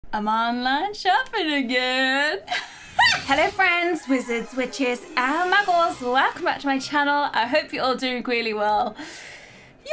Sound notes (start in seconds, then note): 2.5 laughs